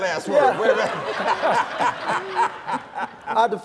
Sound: laughter

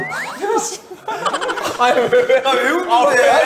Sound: muted laughter

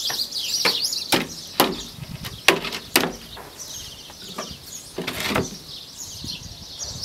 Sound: birds chirping; wood thumping

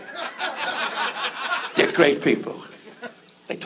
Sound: audience laughs

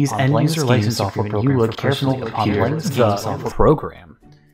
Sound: mumbles

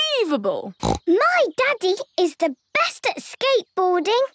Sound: snorts

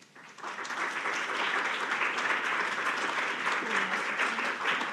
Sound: audience applauding

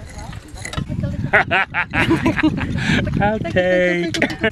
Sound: laughter

